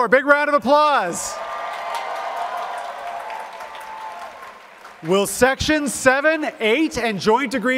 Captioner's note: applause